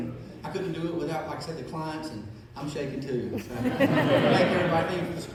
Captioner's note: laughing